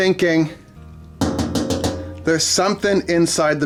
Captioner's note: tapping on washing machine